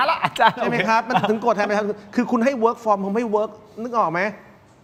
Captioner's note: laughs